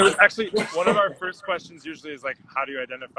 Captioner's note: laughs